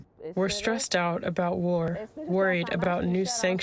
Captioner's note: through translator